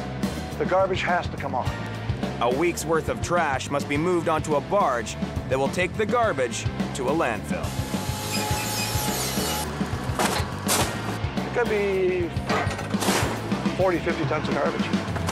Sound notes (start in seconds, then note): 7.6 machine humming